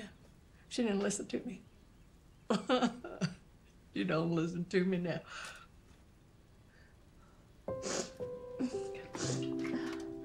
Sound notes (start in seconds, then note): 2.5 sobs; 7.7 Carlene sniffling